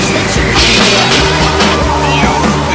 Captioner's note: crash!